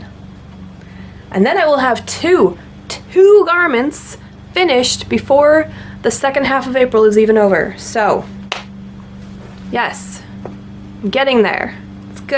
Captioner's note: claps